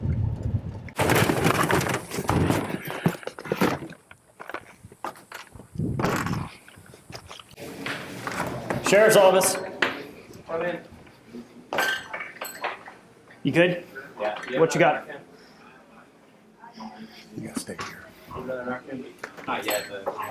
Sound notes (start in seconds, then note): 0.9 rustling